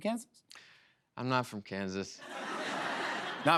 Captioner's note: laughter